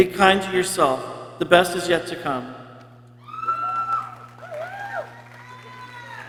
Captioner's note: people cheering